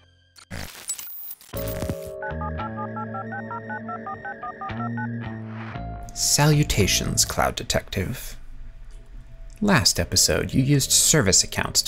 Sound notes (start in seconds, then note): 1.5 phone dialing